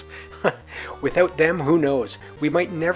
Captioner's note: laughs